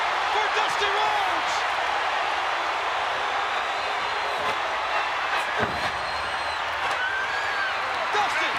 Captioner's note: applause